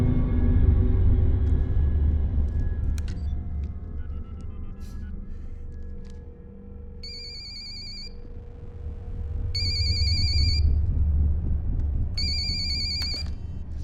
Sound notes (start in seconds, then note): 3.0 line ringing; 3.0 speed-dial beeping; 7.0 phone ringing